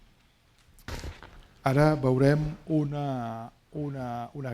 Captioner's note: speaking spanish